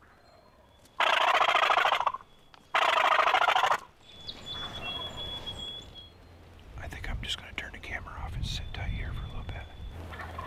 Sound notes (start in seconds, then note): 0.9 turkey call; 0.9 turkey gobbles; 4.9 turkey gobbles